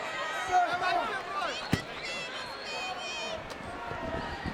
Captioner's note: crowd clamoring